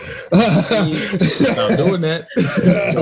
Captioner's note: they laugh